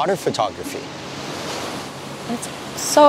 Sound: waves crashing

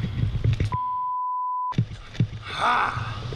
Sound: beep

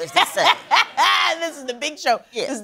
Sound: laughs

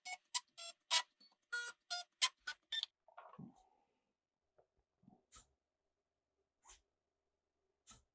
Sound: sounds of Drawing

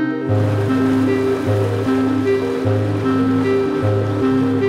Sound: cavitation noise

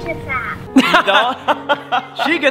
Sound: laughing

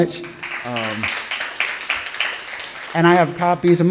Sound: audience applauding

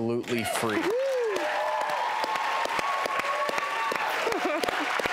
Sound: audience applause

